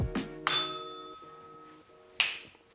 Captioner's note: bell rings